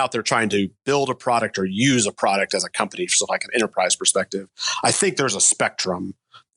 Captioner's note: none